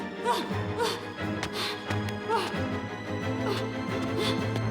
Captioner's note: Freddie struggling